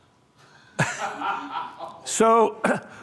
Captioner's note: laughter